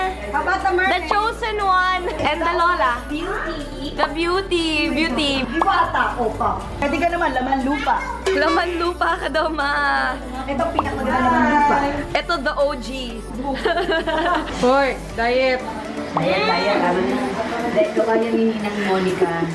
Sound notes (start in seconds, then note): 15.2 laughs